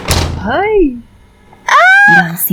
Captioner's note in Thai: กรี๊ดดด